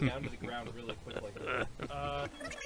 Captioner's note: evil chuckle